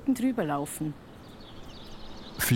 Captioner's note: birds chirping